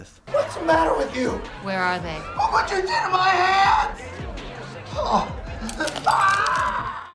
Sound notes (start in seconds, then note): 4.9 Jimmy groans; 5.6 glass crunching; 6.0 screaming